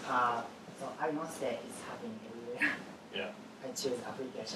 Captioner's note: laugh